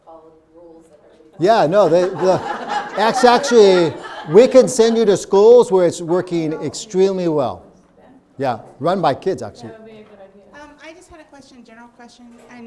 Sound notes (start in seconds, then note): 1.4 audience laughing